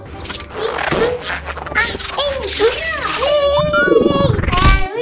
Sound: whirling sounds

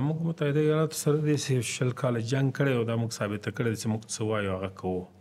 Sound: speaking Pashto

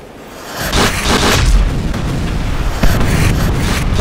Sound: explosions booming

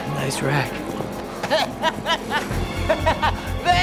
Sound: laughing

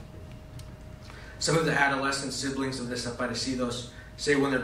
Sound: spanish

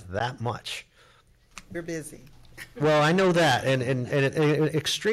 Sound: chuckles

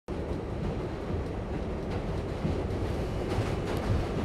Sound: train rattling

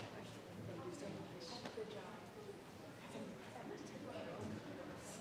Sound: audience chattering indistinctly

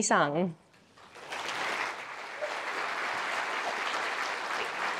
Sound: audience applause

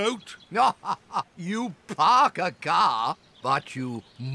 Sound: laughs

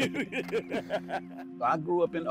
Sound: chuckles

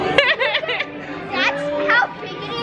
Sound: laughing

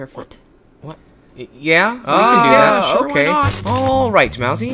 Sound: talking in agreement

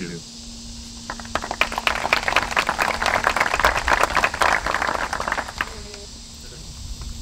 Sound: applause

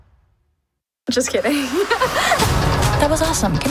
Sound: laughs

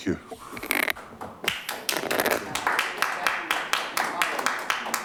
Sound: clapping

